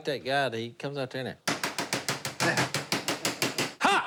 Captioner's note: banging